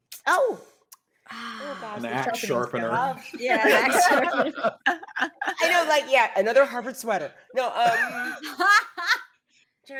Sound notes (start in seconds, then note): 3.6 all giggling; 8.5 laughing